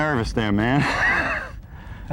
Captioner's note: laughter